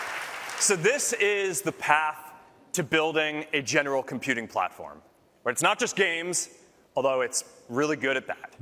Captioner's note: applause